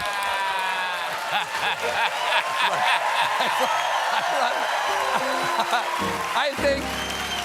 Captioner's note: cheers and applause; laughter; piano riff